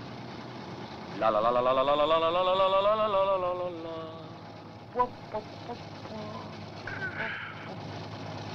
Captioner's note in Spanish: piero canticchia